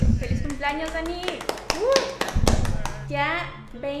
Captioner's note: clapping